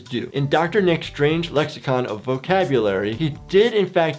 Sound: none

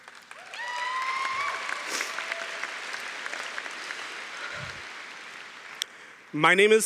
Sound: cheering & Applause

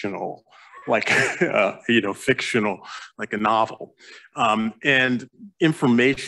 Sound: chuckles

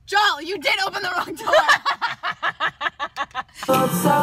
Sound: laughter

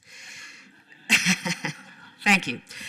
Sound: scattered laughter

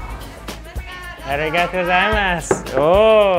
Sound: speaks in foreign language

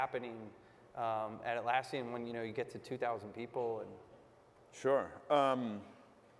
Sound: none

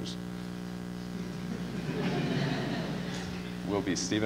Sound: laughter

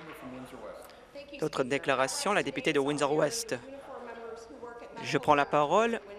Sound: applause

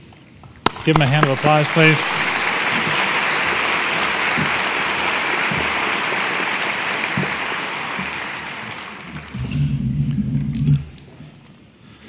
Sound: applause

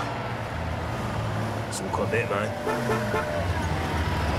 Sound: horn honking

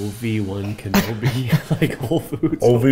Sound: laughing

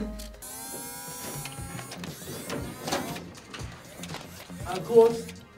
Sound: fan whirrs

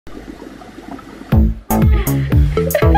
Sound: bubbling water; upbeat music

